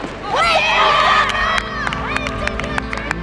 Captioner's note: cheering